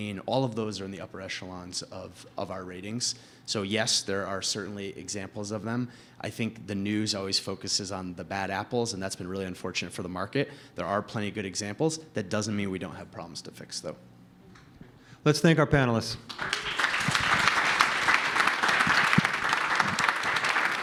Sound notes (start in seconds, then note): 16.2 applause